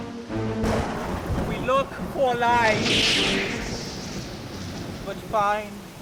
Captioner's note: thunder crashing